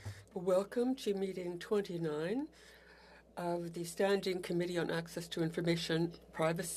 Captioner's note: speaking French